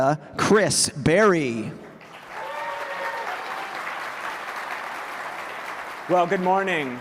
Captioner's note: applause